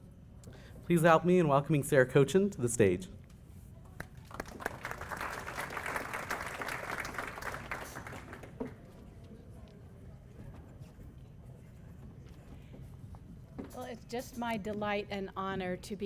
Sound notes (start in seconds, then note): 7.2 applause